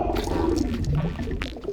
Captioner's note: fart steps